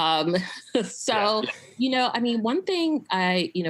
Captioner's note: laughs